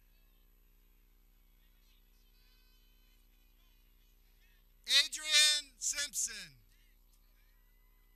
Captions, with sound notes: (air horn blares) Adrian Simpson